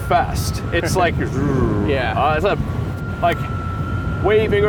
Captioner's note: vocalizes